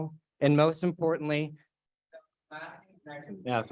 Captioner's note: microphone muted